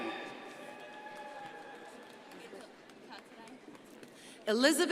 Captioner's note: crowd cheering and applauding